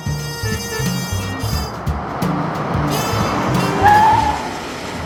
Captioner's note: horn honks; tires screech